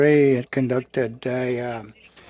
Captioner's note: speaking French